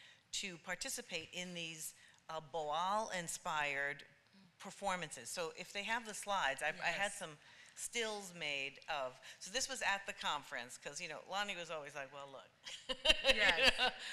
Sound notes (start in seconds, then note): 12.6 laughter